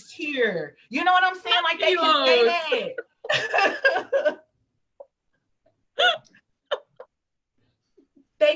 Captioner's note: laughs